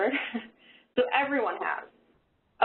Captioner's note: chuckles